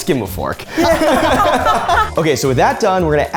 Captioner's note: everyone laughing